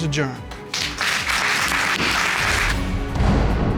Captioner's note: applause; dramatic music playing